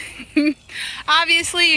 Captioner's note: laughs